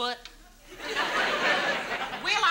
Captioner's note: audience laughs